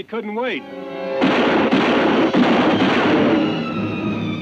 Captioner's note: guns bang